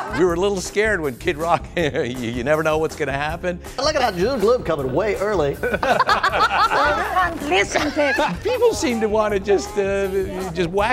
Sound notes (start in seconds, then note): 5.5 laughs